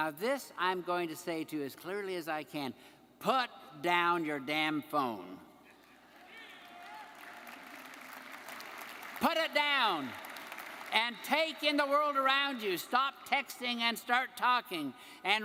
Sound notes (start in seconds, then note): 5.8 audience member laughing; 6.0 audience applauding; 6.7 audience member cheering